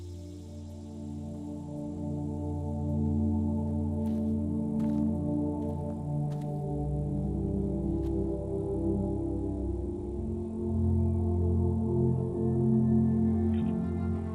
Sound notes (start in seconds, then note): 0.1 somber music; 4.7 grass crunching; 10.7 somber music